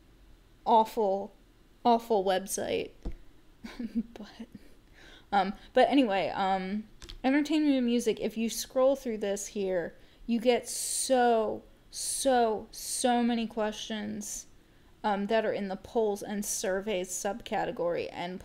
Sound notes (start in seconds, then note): 3.6 laugh